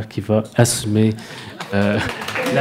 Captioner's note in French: applaudissements